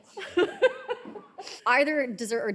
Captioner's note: all laughing